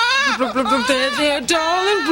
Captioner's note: baby crying